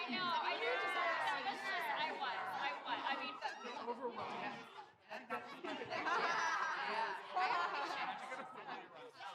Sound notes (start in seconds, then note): 5.1 women laughing